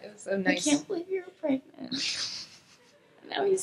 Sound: laughs

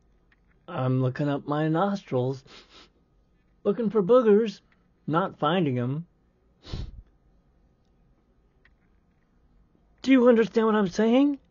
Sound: sniffing

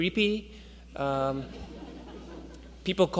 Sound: audience members laugh

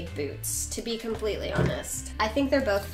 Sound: pushes chair

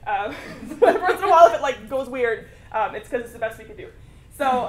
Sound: laugh

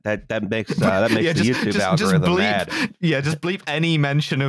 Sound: laughing

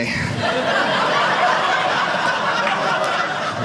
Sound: audience laughing

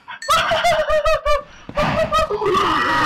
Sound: maniac laugh

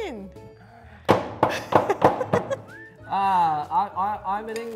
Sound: laughing

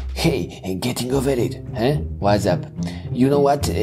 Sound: none

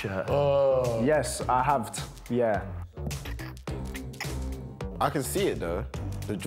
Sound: yawns

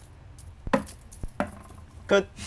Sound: crash

